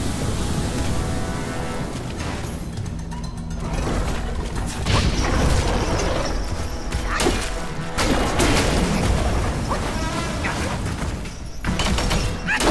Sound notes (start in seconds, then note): 5.1 cart boss grunting; 9.9 sword clanking